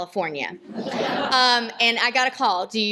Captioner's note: laughter